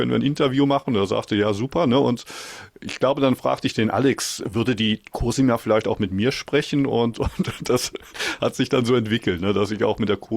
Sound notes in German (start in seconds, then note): 7.2 gelächter